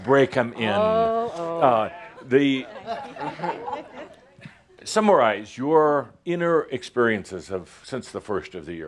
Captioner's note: some giggles